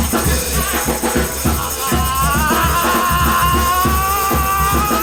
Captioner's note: yells